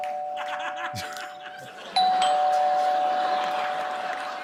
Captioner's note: doorbell ringing; laughter